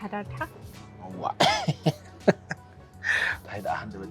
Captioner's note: laughs